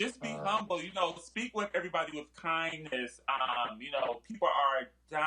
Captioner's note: laughter